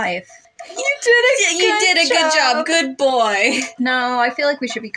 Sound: condescendingly; chuckle

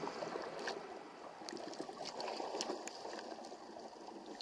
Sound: water sloshing

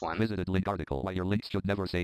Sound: screen reader voice

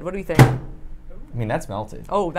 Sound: microwave bangs

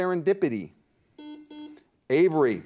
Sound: buzzer dings

